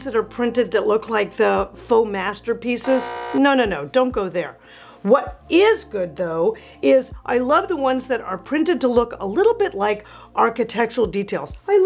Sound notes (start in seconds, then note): 2.8 buzz beeping